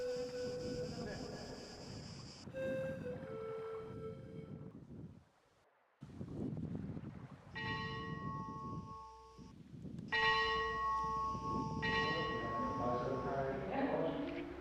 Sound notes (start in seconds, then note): 7.6 sound: Church bell